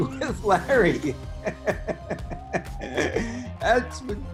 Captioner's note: laughs